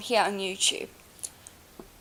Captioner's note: scratch